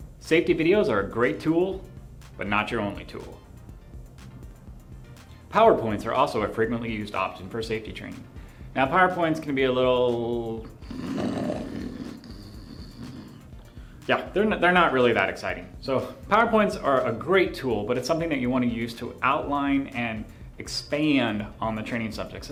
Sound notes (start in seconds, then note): 10.7 snoring